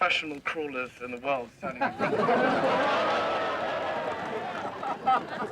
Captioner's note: students laughing